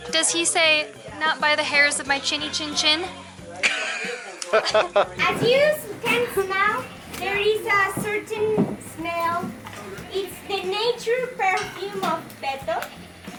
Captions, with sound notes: Does he say "not by the hairs of my chinny-chin-chin"? [Laughter] As you can smell, there's a certain smell. It's the nature perfume of Beto.